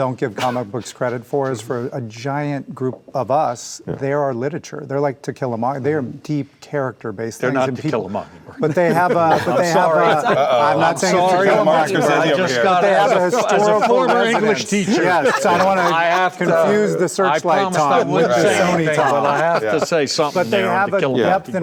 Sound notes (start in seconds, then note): 10.6 group chattering